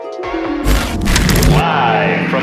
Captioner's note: television static